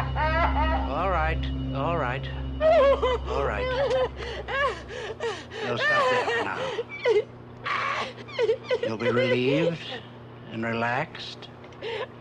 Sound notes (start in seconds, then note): 4.3 Betty sobs; 7.6 Betty sobs